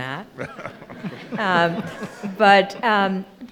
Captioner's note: laughing